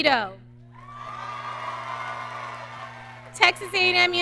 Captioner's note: audience cheering